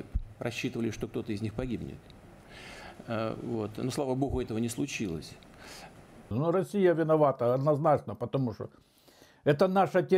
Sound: speaking russian

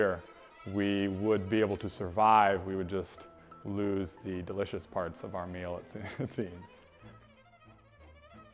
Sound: laughs

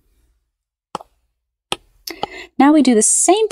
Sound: marker taps

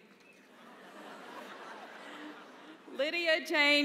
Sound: laughter

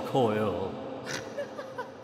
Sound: spooky laughing

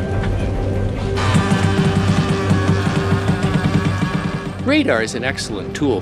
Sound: electric winch whirring

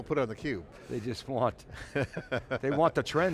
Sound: laughs

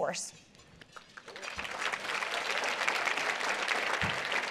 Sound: applause

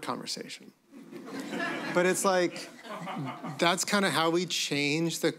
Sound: laughter

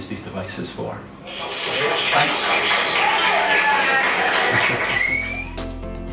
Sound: applause; chuckles

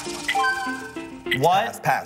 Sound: whispering

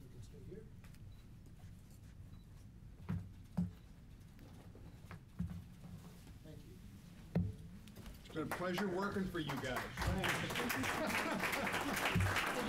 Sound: applause

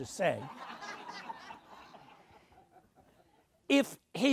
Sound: audience laughs

